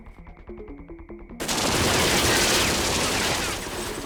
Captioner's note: gunshots